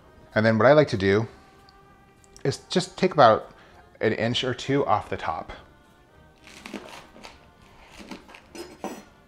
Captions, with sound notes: And then what I like to do is just take about an inch or two off the top. (slicing)